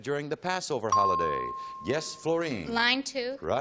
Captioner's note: ping